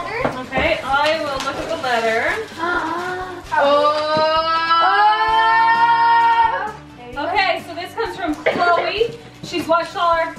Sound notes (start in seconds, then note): 3.5 all exclaiming in excitement